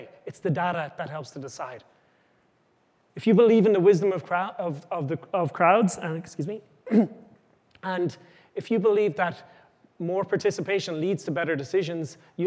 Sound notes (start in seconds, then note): 6.8 clears throat